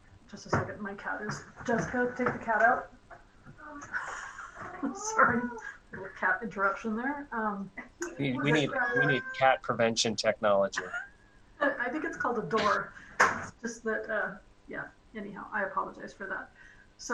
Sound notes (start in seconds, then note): 10.7 laughter